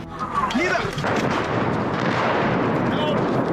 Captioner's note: swooshing, then a blast